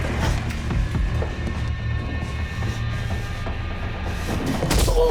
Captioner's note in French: none